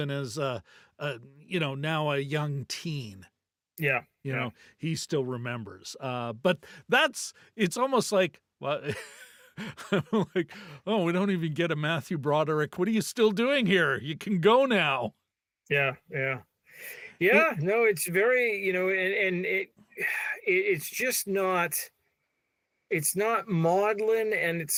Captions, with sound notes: even as, you know, now a young teen. Yeah. You know, he still remembers. But that's, it's almost like, what? (laughing) Oh, we don't even get a Matthew Broderick. What are you still doing here? You can go now. Yeah, yeah. Yeah, no, it's very, you know, and it, it's just not, it's not maudlin'